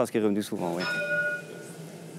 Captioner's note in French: Ding !